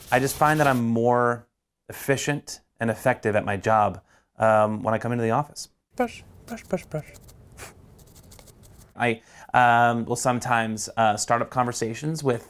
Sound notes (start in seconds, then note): 7.6 exhales sharply